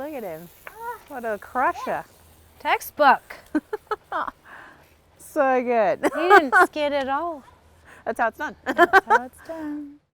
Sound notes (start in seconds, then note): 3.7 laughs; 8.7 laughs